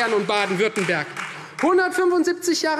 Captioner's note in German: Beifall Freie Demokraten